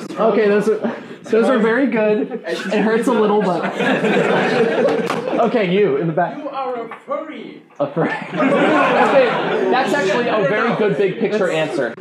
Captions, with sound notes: Ok, so those were very good, it hurts a little, but… [laughing] Ok you, in the back. – "You are a furry!" A furry... [laughing] That's actually a very good, big-picture answer